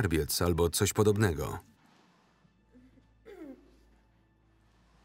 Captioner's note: billie groans